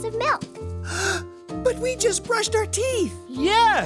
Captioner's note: gasp